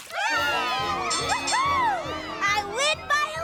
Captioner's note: cheers and applause; bell dinging